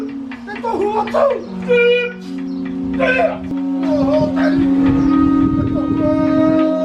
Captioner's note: performer shouting in Maori